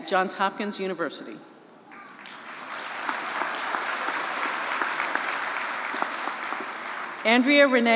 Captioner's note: applause